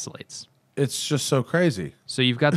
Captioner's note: laughter